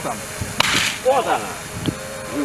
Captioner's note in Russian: щелчок лопнувшего троса